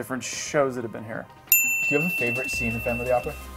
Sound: bell rings

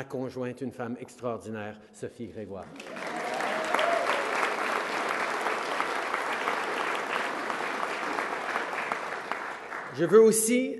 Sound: applause

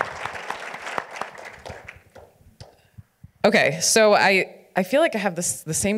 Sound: audience applauds

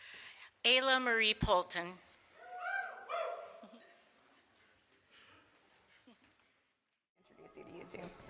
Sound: small group cheers

